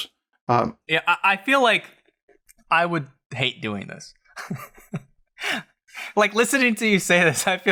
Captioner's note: laughs